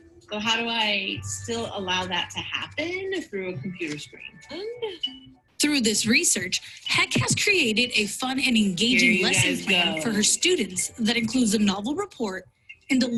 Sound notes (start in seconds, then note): 4.4 monotone beeping